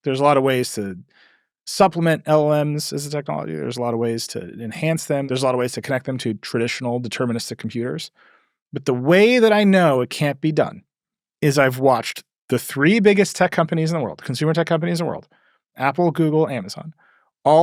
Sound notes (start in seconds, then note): none